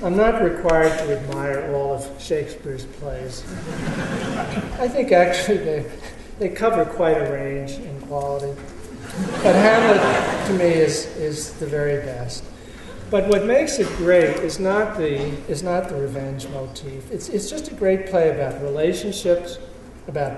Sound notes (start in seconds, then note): 9.0 laughter